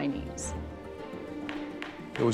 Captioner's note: gavel banging